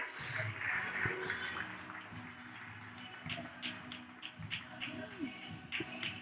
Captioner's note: audience claps; upbeat music